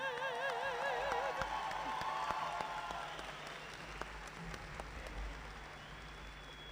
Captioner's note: audience applauding